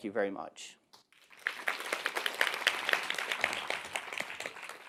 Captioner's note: audience clapping